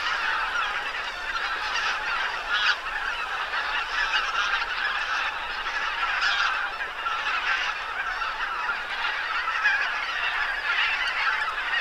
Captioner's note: Geese